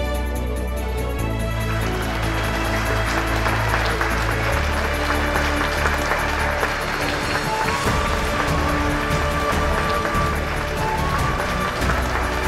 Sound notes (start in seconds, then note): 2.8 applause; 7.5 hopeful music playing